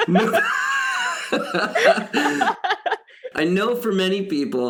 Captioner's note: both laughing